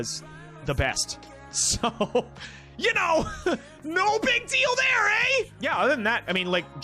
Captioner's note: laughing